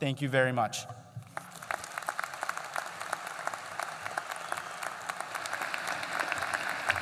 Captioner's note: applause